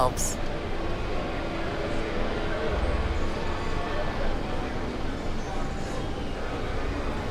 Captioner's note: crowd chattering